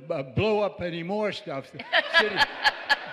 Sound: laughter

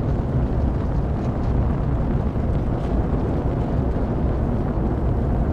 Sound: wind noise

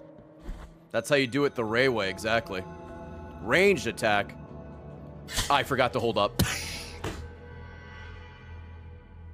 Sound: laughs

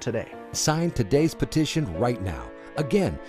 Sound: voiceover

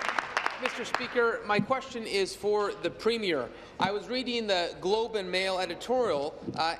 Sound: applause

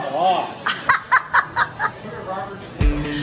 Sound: narrator laughs; upbeat music

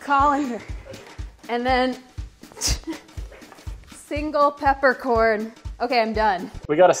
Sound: laughs

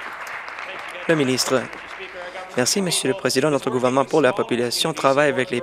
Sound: some Applause

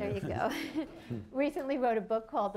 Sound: laughter

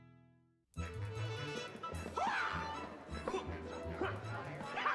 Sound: making karate noises

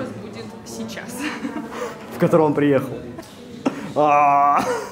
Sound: laughs

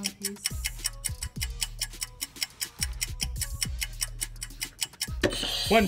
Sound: clock ticks; buzzer rings

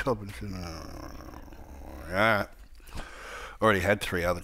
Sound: growling

